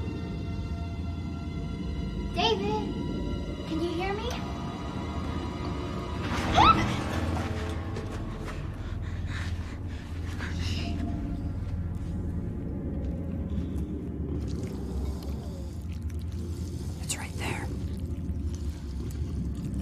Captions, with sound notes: David, can you hear me? [screams] Shh! [squelching] [whispering] It's right there.